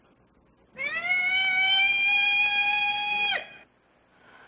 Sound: peacock screams

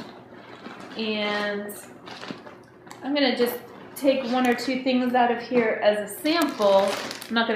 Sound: zipper opening

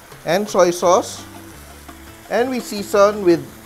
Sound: sizzling sound

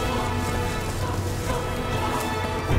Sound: running footsteps; driving orchestral music

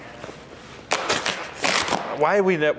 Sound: cardboard ripping

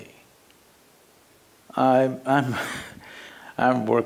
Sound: laughs

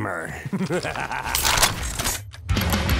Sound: soldier laugh

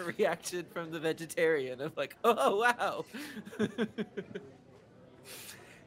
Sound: laughing

